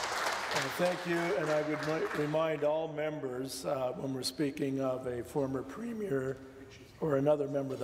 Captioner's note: some Applause